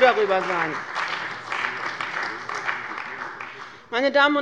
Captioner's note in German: Beifall bei dem BÜNDNIS 90/DIE GRÜNEN und der CDU